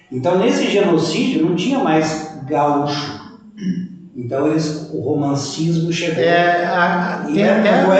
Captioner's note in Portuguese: limpando a garganta